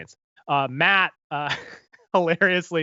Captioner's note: laughs